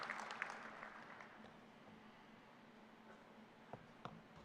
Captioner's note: applause